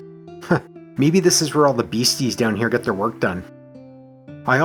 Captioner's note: chuckles